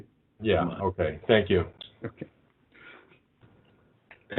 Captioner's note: chuckling